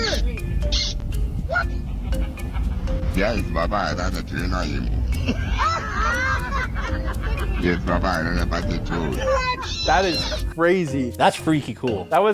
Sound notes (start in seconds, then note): 4.9 group laughing